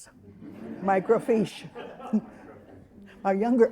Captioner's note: all laughing